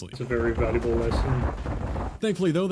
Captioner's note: pop pop pop pop pop pop pop pop pop